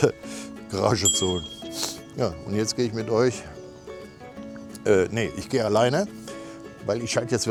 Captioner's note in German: schnauben